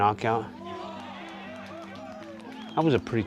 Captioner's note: cheering